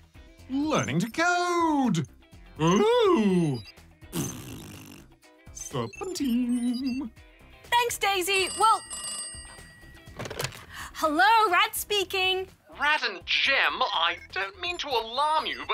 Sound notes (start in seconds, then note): 4.1 blows raspberry; 8.3 phone rings